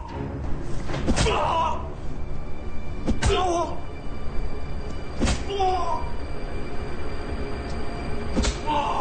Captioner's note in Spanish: Gruñidos de dolor